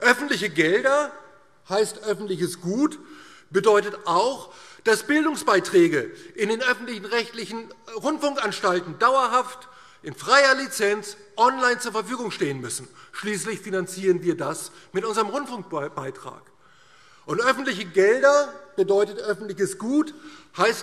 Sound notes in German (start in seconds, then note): none